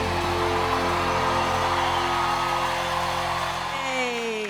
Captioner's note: audience cheering and clapping